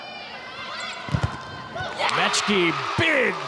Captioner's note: ball thumping; audience cheering